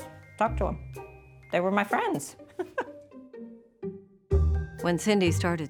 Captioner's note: laughs